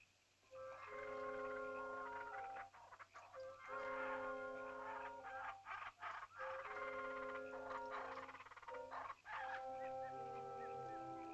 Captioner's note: frogs croaking; soft ominous music; animal chittering